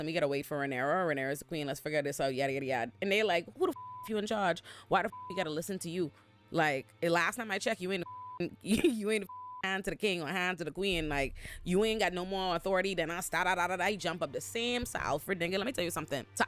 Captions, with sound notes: we gotta wait for Rhaenys or Rhaenys the queen, let's figure this out, yada, yada, yada. And they're like, who the (beep) if you're in charge? Why the (beep) you gotta listen to you? Like, last time I checked, you ain't a (beep) you ain't a (beep) hand to the king or hand to the queen, like, you ain't got no more authority than I started out at, I jump up the same. So Alfred, then let me tell you something.